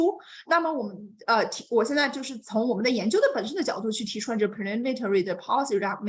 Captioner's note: continues speaking in Mandarin